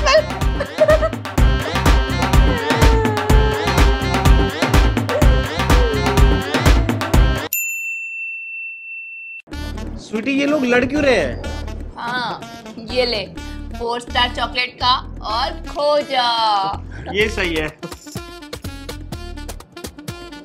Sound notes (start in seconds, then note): 0.0 laughing; 1.5 crying